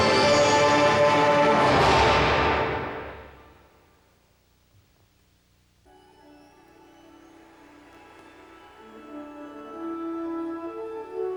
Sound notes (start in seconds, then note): none